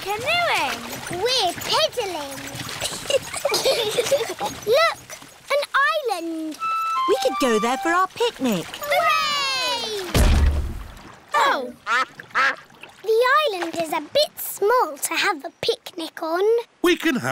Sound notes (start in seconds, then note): 2.8 both giggle; 9.5 peppa and george cheer; 10.1 thud